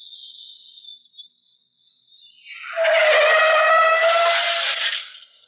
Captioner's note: tires screeching